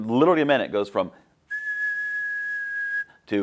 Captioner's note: whistling